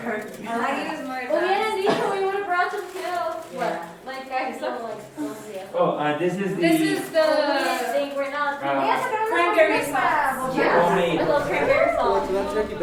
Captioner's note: conversations about waiting for the turkey, greetings